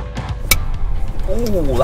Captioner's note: upbeat rock; clapperboard clicks